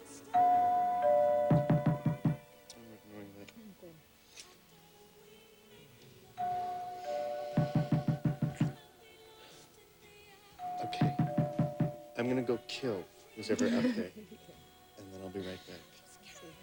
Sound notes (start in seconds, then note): 0.0 doorbell rings; 1.4 knock on door; 6.7 doorbell rings; 7.5 knock on door; 10.6 doorbell rings; 10.9 knock on door; 13.5 laughing